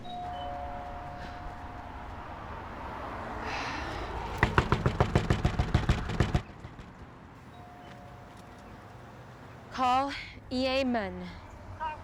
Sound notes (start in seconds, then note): 0.0 doorbell ringing; 4.4 knocking